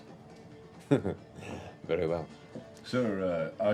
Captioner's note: chuckles